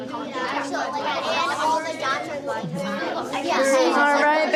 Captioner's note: children chattering continues